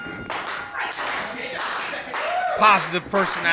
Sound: bell rings

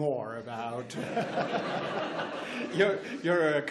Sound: laughs

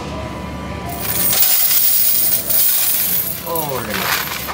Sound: coins rattling

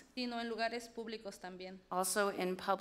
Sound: speaks foreign language

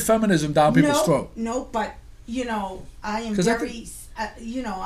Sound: voiceover

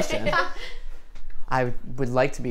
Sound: laughs

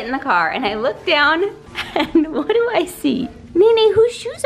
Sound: laughing

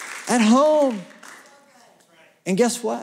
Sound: applause

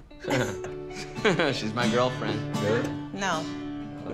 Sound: laughs

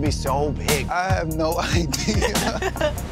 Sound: laughing; laughs

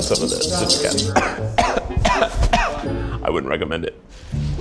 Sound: coughs

